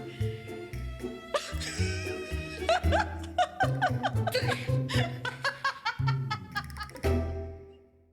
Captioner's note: laughter